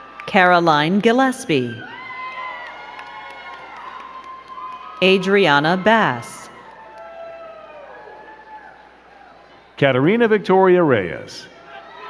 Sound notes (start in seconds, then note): 0.0 crowd cheering and clapping; 1.6 crowd cheering and clapping